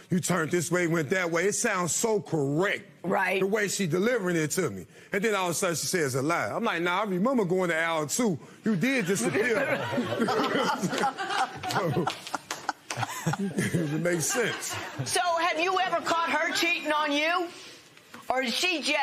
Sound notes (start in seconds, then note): 10.5 laughter